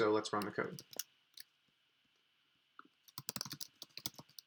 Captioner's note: keyboard clicking